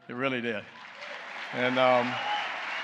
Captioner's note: applause